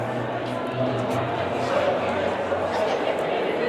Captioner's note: people chatter